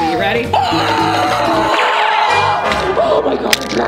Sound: screaming

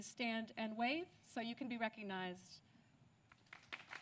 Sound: applause

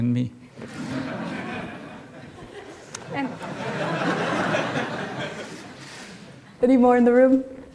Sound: laughter

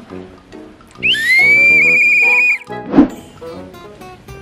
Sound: whistle blows

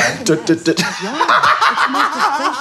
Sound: laughing

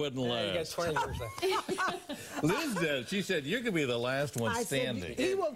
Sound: laughter

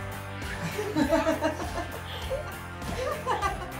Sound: soldier laughing; cameraperson laughing

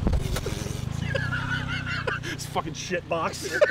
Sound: laughs

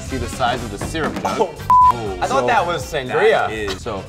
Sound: beep

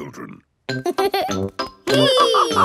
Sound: giggles; madam gazelle laughing; both straining

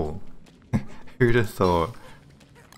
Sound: chuckles

